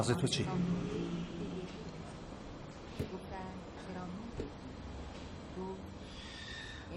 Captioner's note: radio is playing in the restaurant